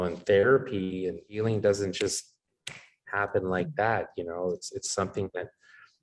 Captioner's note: snaps fingers